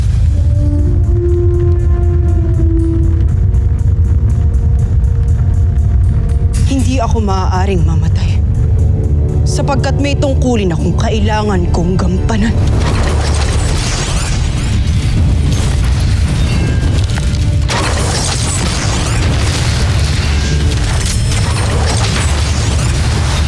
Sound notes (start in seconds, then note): 0.0 evil energy whooshing; 12.4 weapons whoosh-crackle; 12.9 tense music playing